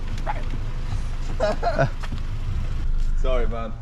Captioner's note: laughing